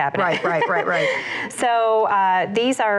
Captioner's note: laughs